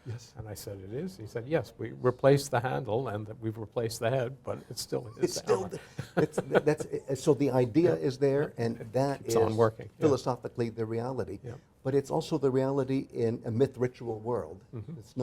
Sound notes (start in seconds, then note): 5.2 laughs